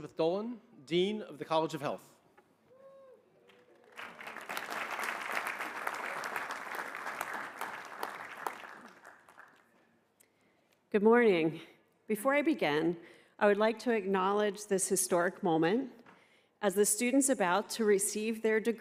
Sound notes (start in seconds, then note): 7.6 applause